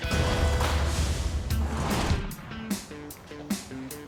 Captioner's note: door rattling; light music